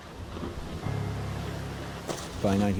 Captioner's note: water splashing